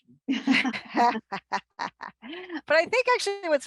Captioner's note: group laughs